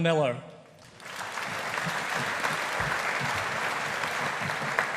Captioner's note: audience applauding